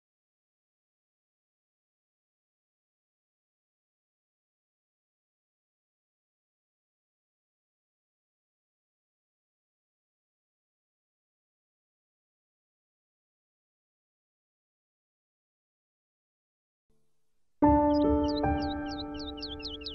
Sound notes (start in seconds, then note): 4.3 night Silence